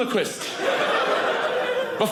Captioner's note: audience laughing